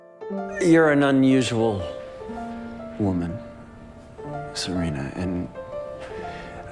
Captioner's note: voiceover